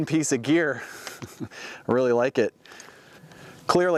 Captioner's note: laughs